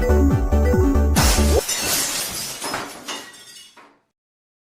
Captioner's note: glass smashing noise